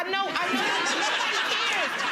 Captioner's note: audience laughs